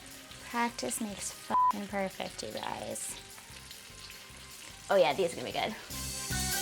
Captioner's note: beep